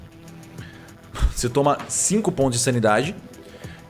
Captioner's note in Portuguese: Suspiro